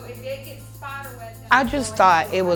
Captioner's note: background talking